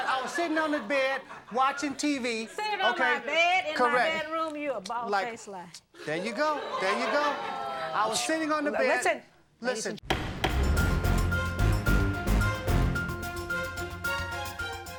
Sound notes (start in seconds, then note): 10.1 gavel bangs; 10.1 dramatic music